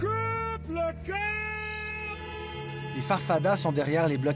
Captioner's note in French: klaxons